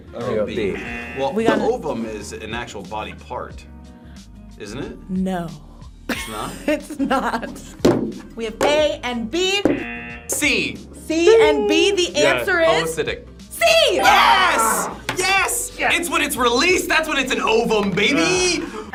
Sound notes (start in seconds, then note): 6.1 laughs; 9.7 buzzer